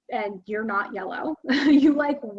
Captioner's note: chuckles